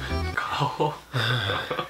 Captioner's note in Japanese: 息の音